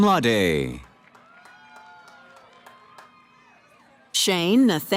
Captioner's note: cheering